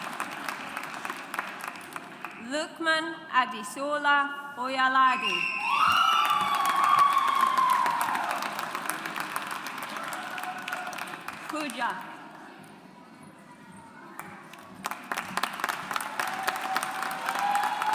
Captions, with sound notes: Lukman Adesola Oyelade. (AUDIENCE APPLAUDS) Pooja. (AUDIENCE APPLAUDS)